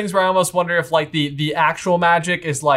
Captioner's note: none